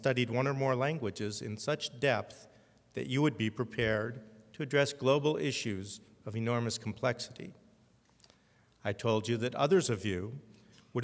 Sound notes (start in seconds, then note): none